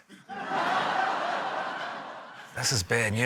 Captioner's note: laughter